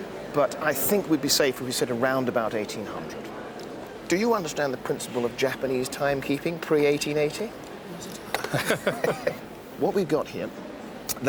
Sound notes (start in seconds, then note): 8.4 both laugh